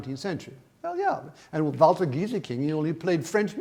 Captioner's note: speaks in foreign language